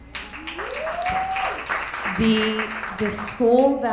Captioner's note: attendees applauding